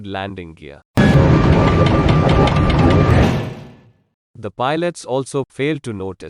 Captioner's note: vibration and Noise of the Aircraft